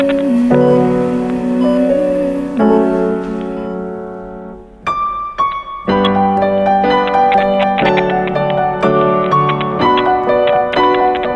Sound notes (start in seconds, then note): 2.0 machine beeping; 7.6 static